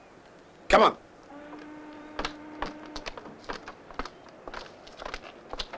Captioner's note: ship horn blows